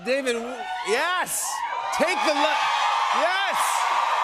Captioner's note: cheers and applause